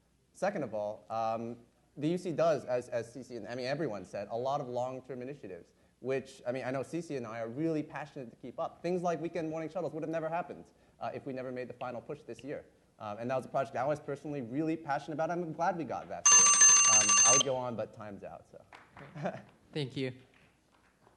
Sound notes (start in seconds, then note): 16.2 alarm rings